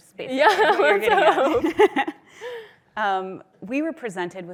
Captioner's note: laughs